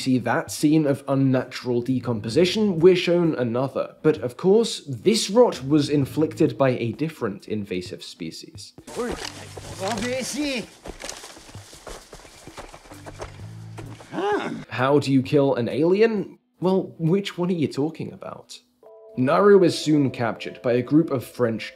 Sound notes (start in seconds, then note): 9.4 Clip TRAPPERS: *speaking French